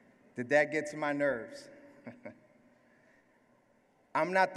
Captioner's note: laugh